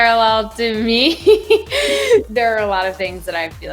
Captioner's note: laughing